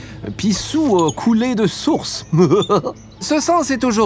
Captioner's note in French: rire